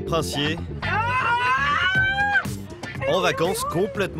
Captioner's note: screaming for joy